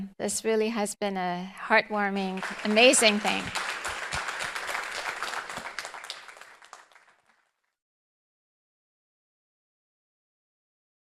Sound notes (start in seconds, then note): 3.7 audience applauding